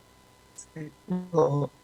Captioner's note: chit-chat